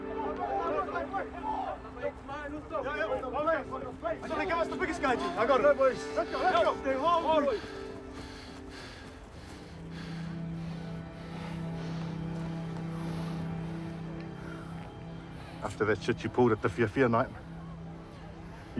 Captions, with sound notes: (BOYS CHATTER INDISTINCTLY) - I think I was the biggest guy, G. I got it. - Let's go, boys. - Let's go, let's go! - (BREATHES HEAVILY) - (SIGHS) After that shit you pulled at the Fiafia Night,